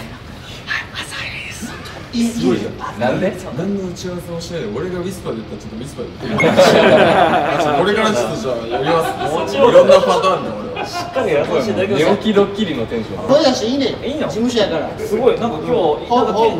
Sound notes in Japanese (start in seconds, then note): 6.2 笑い